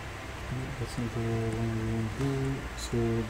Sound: speaking faintly

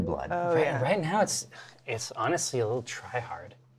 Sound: none

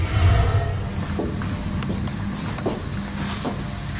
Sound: foot steps

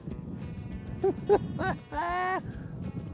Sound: laughing

